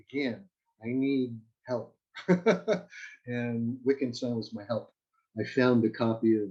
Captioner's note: laughs